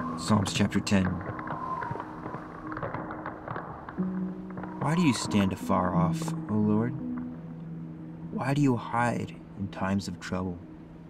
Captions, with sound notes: Psalms chapter 10. (gentle music) (ice shifting and cracking) Why do you stand afar off, O Lord? Why do you hide in times of trouble?